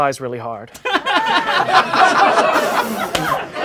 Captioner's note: laughing